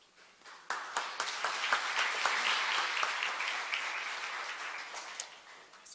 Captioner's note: applause